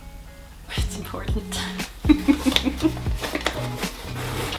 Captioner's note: laughs